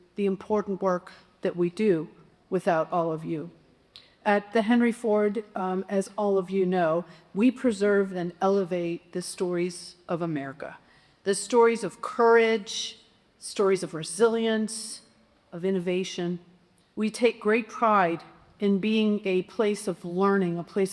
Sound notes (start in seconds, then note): none